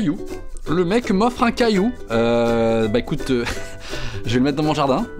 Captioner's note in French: rire